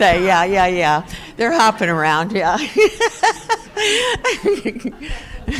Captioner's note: chuckles